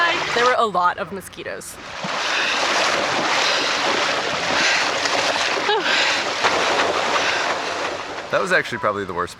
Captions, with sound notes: There were a lot of mosquitoes. [water splashing] That was actually probably the worst